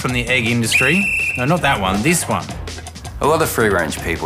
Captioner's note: whistle blows